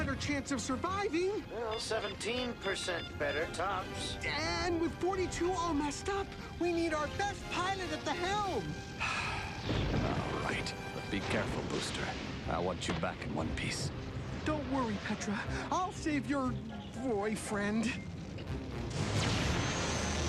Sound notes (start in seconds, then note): 9.0 sighs